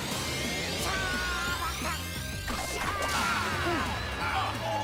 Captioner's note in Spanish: esfuerzo